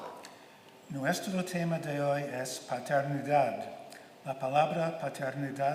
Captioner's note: speaking in Spanish